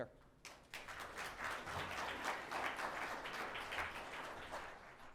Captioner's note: audience applauding